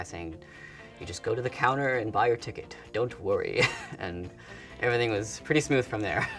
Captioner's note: laugh